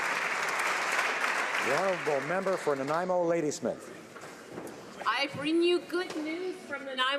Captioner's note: applause